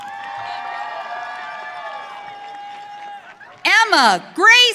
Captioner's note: audience cheering